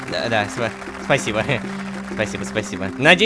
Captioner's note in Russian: Аплодисменты